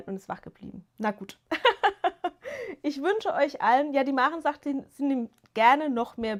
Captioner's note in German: gelächter